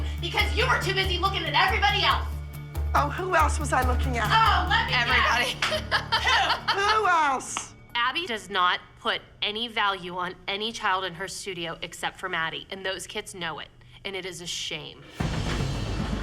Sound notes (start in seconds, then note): 4.3 laughs; 15.1 suspenseful music